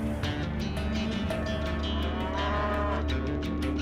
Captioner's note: cattle moo